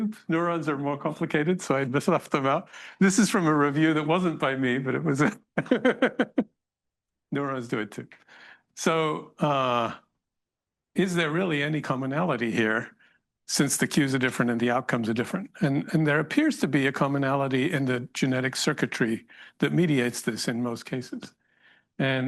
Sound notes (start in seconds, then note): 5.4 laughs